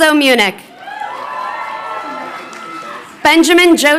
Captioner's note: crowd cheering